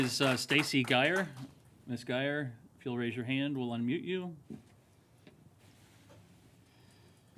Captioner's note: applause